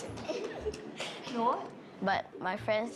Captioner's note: boys giggle